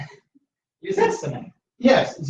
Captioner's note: laughter